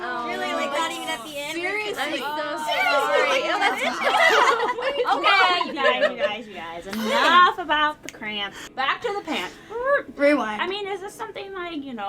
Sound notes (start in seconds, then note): 2.7 laughing